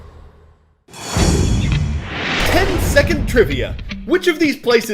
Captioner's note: voice-over